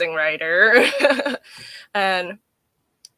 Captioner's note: laughing